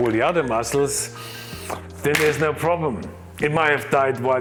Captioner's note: sniffs